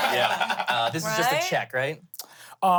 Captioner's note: everyone laughs